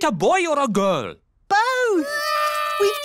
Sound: babies cry

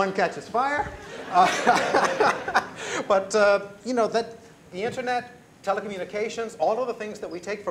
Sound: laughs

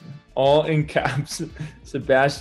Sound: laughs

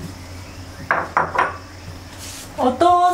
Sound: sound of tableware being put down

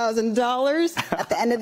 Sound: laughter

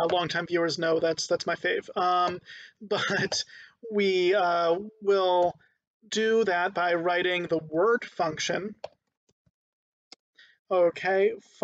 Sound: laughing

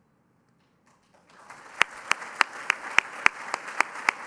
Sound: applause

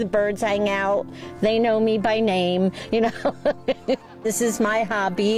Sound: chuckles

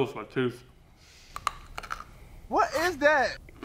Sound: candy bar crunching

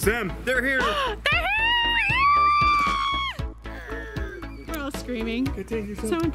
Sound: gasp; screaming

